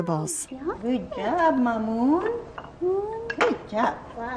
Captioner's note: voiceover